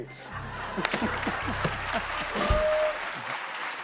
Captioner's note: cheers and applause